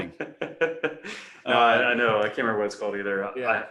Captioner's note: laughs